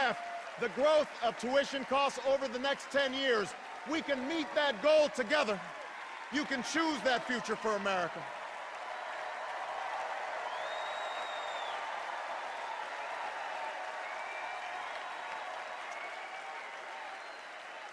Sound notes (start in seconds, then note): 8.1 extended cheers and applause